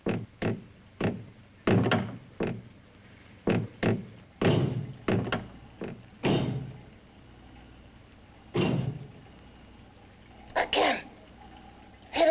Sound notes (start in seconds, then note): 0.1 banging; 8.5 bang